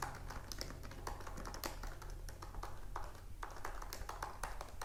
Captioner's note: keyboard clacks